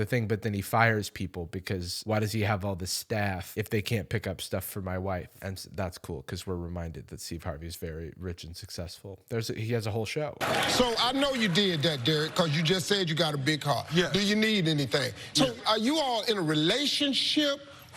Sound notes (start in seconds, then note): 10.4 crowd clapping